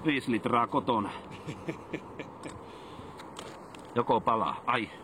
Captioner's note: laughing